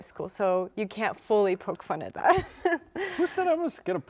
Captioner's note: giggling